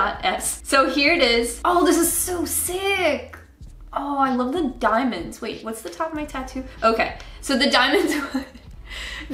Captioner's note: chuckles